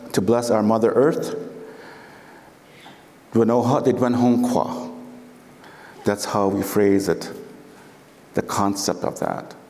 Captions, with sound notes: to bless our mother Earth. (foreign speaking) That's how we phrase it, the concept of that.